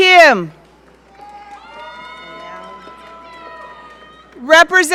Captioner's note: audience cheering